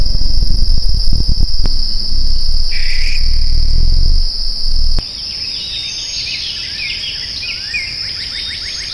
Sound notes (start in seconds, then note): 5.4 birds chirping